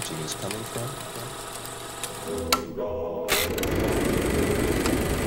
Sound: projector clicking

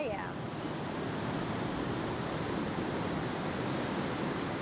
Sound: waves whooshing

